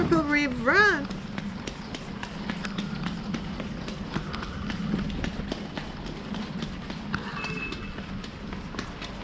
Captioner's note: footsteps running on wet pavement